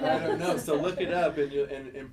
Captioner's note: laughing